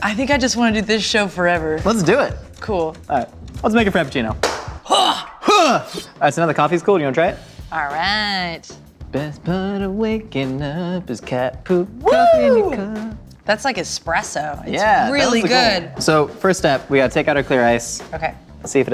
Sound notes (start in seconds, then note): 4.9 grunts